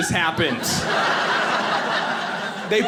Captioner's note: audience laughing